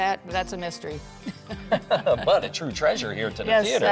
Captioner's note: laughs